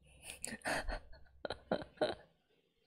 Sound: laughs

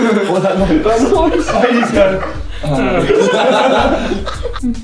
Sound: groans; laughing

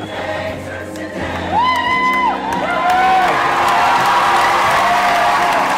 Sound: cheering and applause

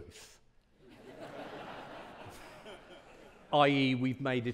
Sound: audience laughing

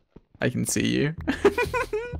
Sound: giggling

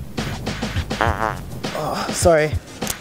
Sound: fart noise

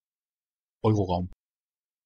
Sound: fast Pronunciation

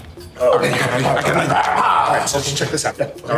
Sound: men groaning

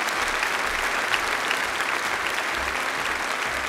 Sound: applause

